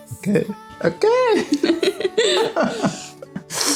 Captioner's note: laugh